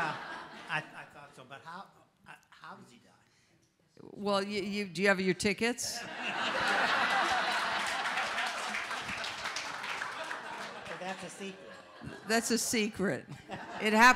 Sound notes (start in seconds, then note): 6.0 audience laughs